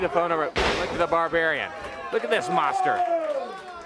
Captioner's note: crowd cheering